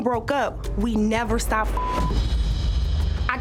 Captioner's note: beep